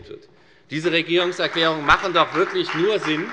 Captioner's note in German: Beifall bei der FDP